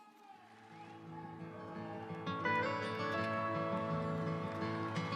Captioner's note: audience applauds